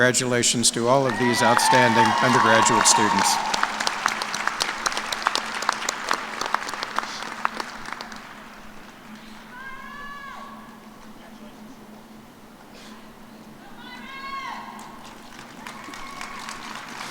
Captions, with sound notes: >> ALYSSA KULP OF LEONARDVILLE, KANSAS WAS RECOGNIZED AS THE ELEMENTARY EDUCATION TEACHER OF PROMISE. CONGRATULATIONS TO ALL OF OUR UNDERGRADUATE OUTSTANDING STUDENT AWARDEES. [ CHEERS AND APPLAUSE ]